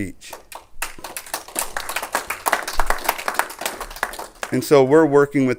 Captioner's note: clapping